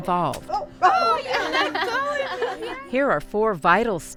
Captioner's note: laughing